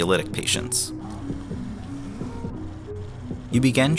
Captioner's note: heart beating